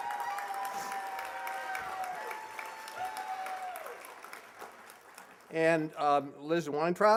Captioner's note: applause